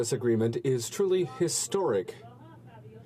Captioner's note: speaking French